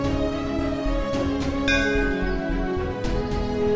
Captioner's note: bell ringing